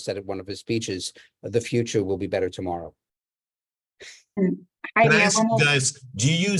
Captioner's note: laughs